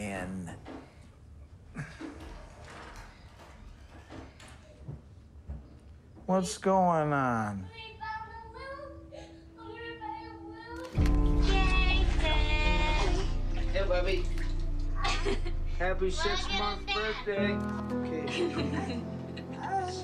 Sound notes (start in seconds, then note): 0.1 cabinet clacks; 2.1 stuff rattles; 3.5 hinge creaks; 4.9 foot thuds; 15.0 laughs; 18.2 laughs